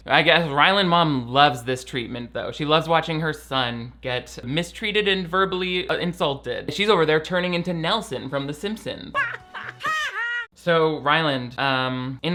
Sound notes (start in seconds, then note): 9.1 laughing; 9.1 woman laughing